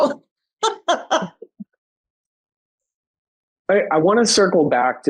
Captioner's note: giggling